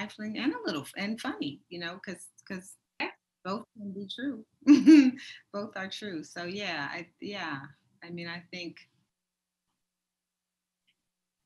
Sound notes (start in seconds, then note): 4.6 chuckles